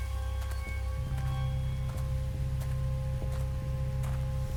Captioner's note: footsteps crunch